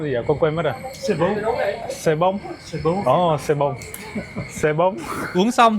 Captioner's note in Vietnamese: tiếng cười